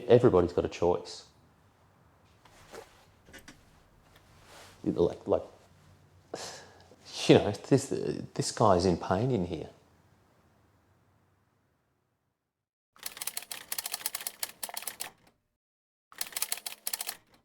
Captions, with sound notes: Everybody's got a choice. This guy is in pain in here. (keys typing)